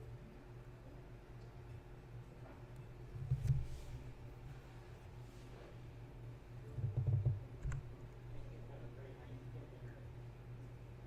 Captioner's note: clicky, clicky, type-type-type